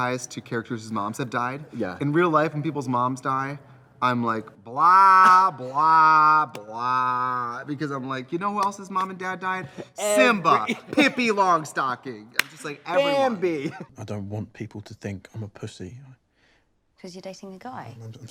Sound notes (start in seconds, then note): 6.5 Katya laughs; 9.5 laughs; 12.3 claps hands